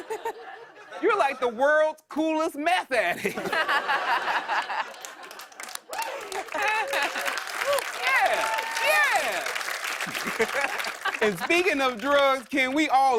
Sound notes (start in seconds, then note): 3.1 laughter; 4.5 cheers and applause; 9.9 laughs